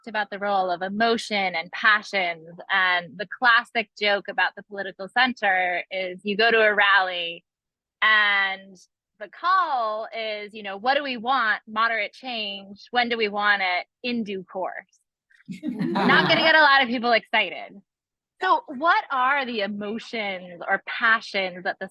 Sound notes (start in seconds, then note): 15.5 attendees laughing